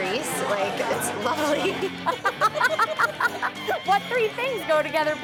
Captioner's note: laughing